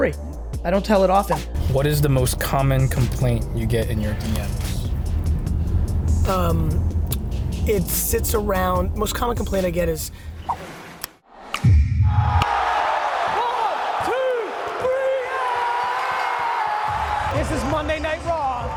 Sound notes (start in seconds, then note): 10.9 upbeat music; 14.3 yelling